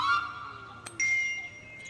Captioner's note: ding!